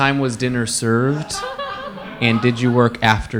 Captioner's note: audience laugh